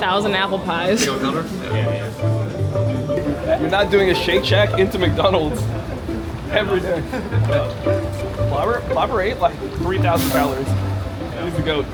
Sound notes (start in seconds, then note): 6.7 laughing